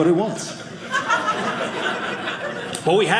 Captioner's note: audience laughing